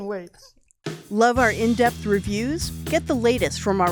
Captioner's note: voiceover